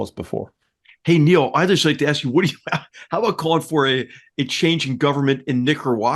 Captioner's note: laugh